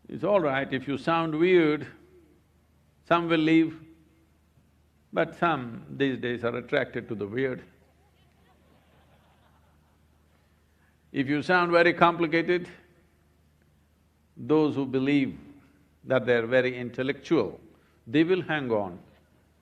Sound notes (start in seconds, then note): 7.8 laughter